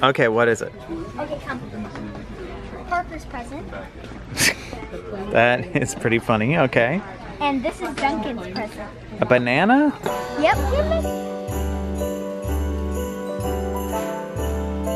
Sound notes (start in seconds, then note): 5.1 laughs; 10.0 holiday music